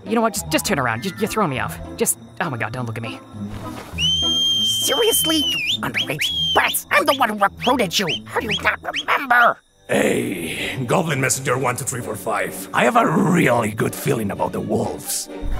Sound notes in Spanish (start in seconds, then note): 3.9 silbido